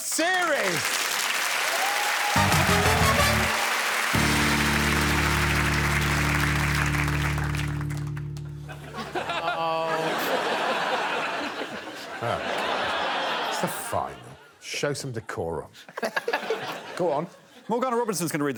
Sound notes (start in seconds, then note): 2.4 applause; 3.9 upbeat music; 8.6 all laughing